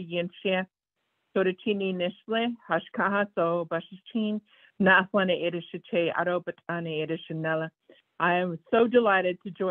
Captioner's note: speaking in Foreign Langague